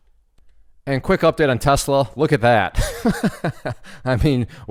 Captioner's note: laughs